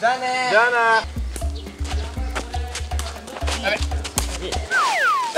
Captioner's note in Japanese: 羽根を蹴る音